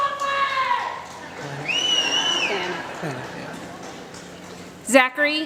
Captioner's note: applause